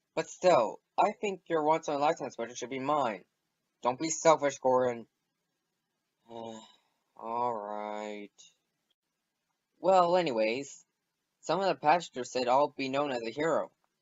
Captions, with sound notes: But still, I think you're once in a lifetime special should be mine. Don't be selfish Gordon! *SIGH* Alright. Well, anyways, some of the passengers said I'll be known as a hero.